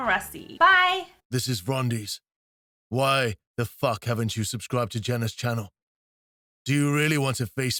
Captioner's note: rumbling Male Voice